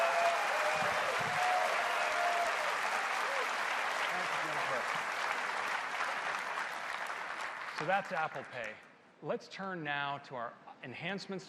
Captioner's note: applause